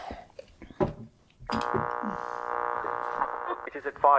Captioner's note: radio buzz